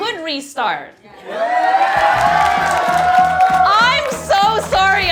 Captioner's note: audience cheering and applauding